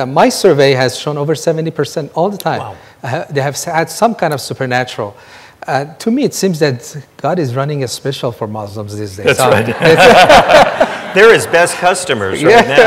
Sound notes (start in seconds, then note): 9.4 everyone laughing